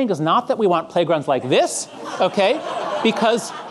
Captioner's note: audience laughing